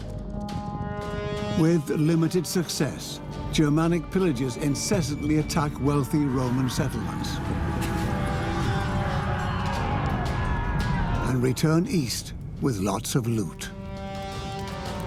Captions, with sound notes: With limited success. Germanic pillagers incessantly attack wealthy Roman settlements. (battle cries) And return east with lots of loot.